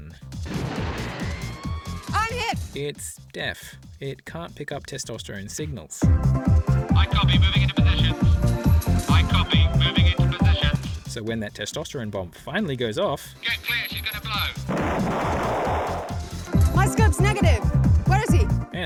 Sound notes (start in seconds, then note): 0.2 r2d2 comedy scream; 6.5 radio instructions; 14.6 kaboom